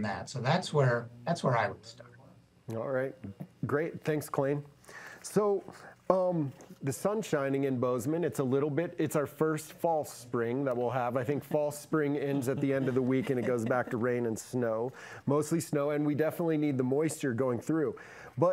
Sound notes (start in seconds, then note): 12.2 panel member laughs